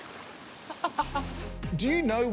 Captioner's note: laughs